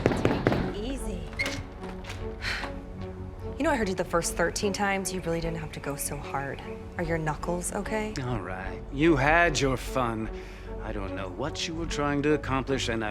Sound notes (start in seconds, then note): 2.2 exhales sharply